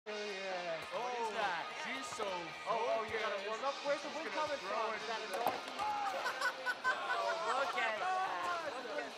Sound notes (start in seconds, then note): 5.2 counselors chattering; 6.0 counselor laughing; 8.3 counselors shouting